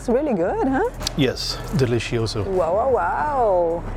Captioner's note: in Portuguese